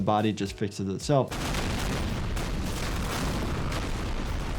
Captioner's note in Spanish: estallidos de armas